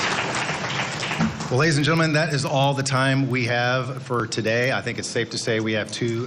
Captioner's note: applause